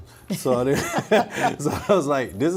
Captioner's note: laughing